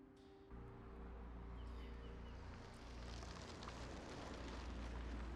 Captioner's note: birds singing